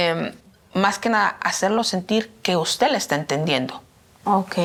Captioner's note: speaking in Spanish